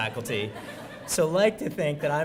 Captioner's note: laughs